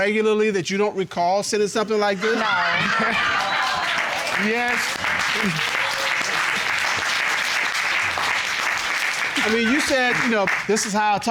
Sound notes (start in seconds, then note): 2.2 audience laughing; 5.3 audience applauding